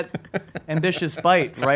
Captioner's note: laughs